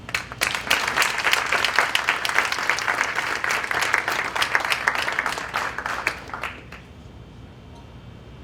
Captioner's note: applause